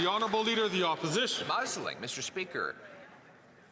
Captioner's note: some Applause